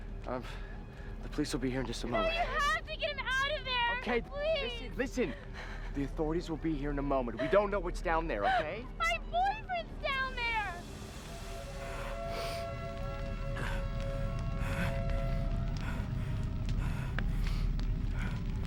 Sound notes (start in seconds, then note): 13.5 man breathing heavily